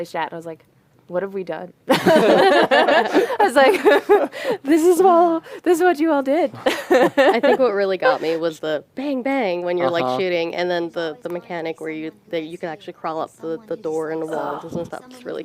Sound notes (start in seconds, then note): 1.9 laughter